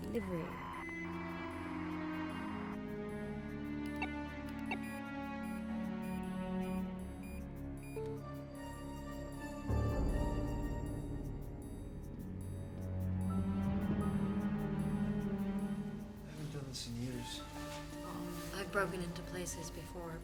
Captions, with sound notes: For delivery. (beeping) - I haven't done this in years. - I've broken into places before,